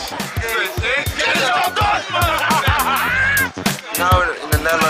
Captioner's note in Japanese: チームの掛け声